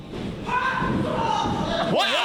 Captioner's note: yelling